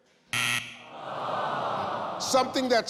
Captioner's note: buzzer rings; audience groans